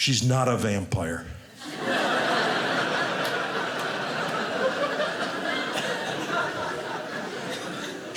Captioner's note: audience laughing